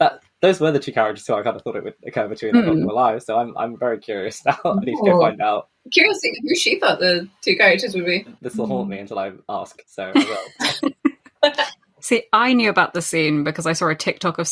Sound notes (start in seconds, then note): 10.0 laughs